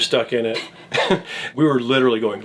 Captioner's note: laughs